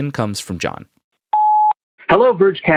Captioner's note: computer beeps